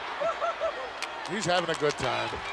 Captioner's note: laughing